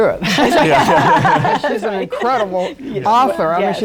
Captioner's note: laughter